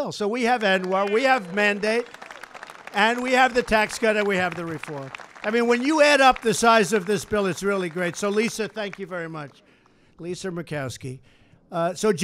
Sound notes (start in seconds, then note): 5.3 applause